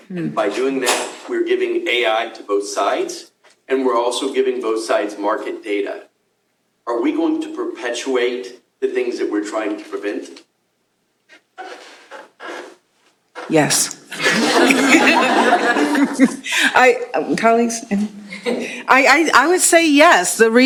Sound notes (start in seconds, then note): 14.1 laughter